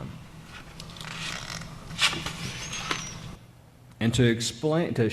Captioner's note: paper creaking